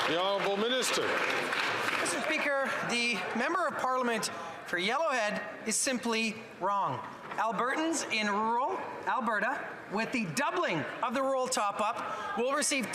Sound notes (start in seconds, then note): 2.9 some Applause